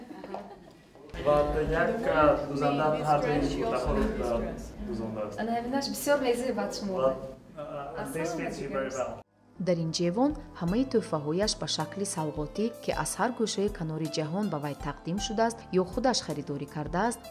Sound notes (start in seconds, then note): 12.9 journalist narrating in tajik